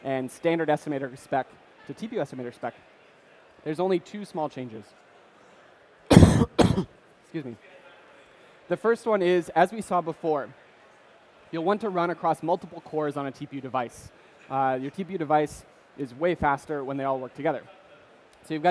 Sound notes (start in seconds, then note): 6.1 coughs